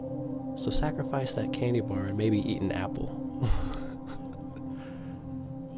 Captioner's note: satisfied chuckle